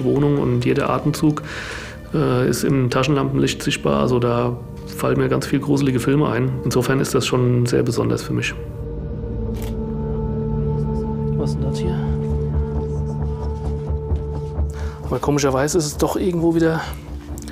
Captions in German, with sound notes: und jeder Atemzug ist im Taschenlampenlicht sichtbar, also, da fallen mir ganz viel gruselige Filme ein. Insofern ist das schon sehr besonders für mich. (Fotoklicken, starre Klänge) Was ist das hier? Aber komischerweise ist es doch irgendwo wieder ...